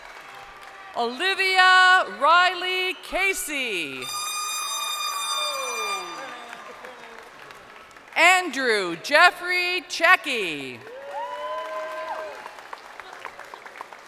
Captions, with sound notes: (crowd cheering) Olivia Rylie Casey. (horn blasting) Andrew Jeffrey Checchi.